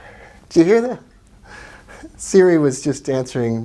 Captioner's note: chuckling